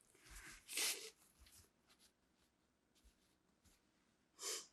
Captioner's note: wiping nose